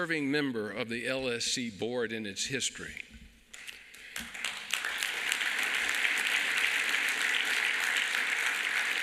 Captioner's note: applause